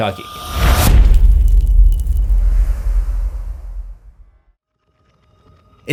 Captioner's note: impact